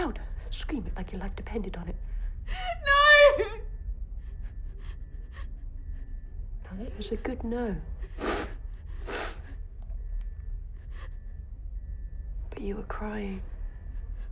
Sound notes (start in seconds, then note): 8.9 sniffs; 14.1 sobbing